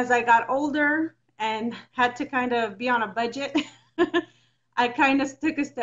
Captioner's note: laughs